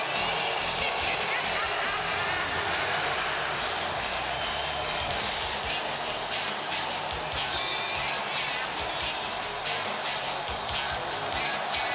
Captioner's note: crowd cheering